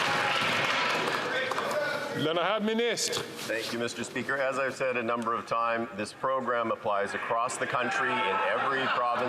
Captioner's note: some Applause